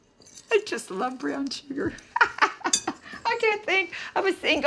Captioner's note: laughs